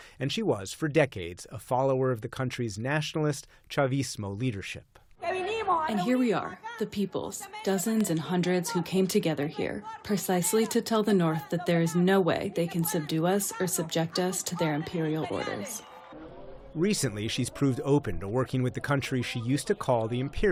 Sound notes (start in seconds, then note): 6.4 through translator